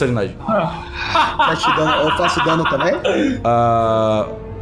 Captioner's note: laughs